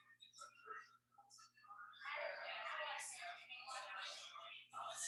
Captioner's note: people chattering indistinctly